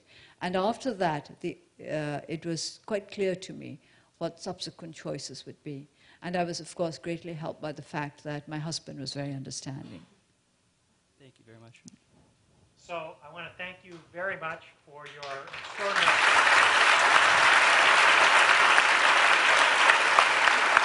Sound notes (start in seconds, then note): 15.0 applause